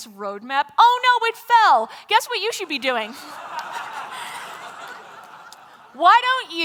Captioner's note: laughter